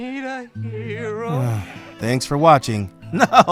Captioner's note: sighing